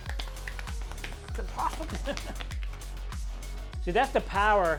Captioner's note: laughs